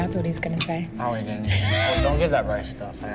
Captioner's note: laughing